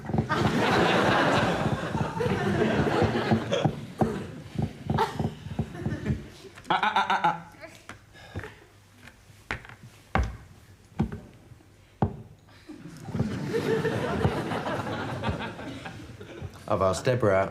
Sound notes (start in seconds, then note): 0.0 fingers tapping; 0.2 audience laughs; 10.9 hand tapping; 12.7 audience laughing